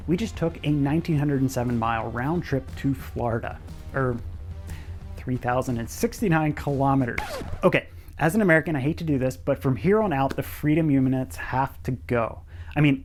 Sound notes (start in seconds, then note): 6.6 record scratches